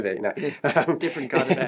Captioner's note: laughs